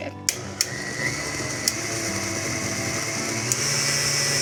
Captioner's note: mixer whirring